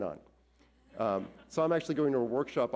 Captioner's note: audience laughs